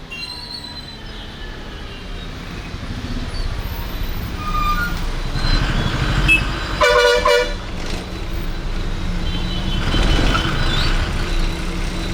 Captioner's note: vehicle and traffic noises